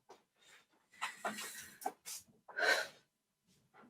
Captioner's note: long inhale, sighs